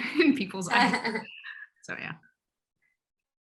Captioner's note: laugh